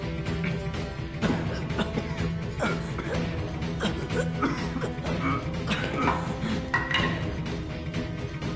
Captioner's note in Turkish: Öksürüyorlar